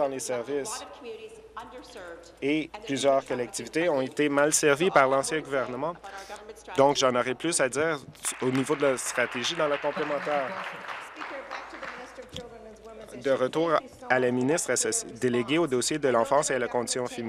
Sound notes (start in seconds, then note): 13.1 applause